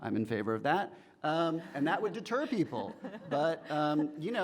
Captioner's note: laughing